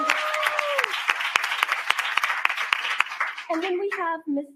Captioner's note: cheering and applause